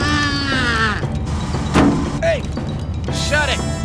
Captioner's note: tires screech; groaning